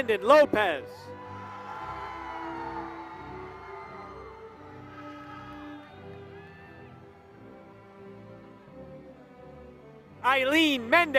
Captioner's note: applause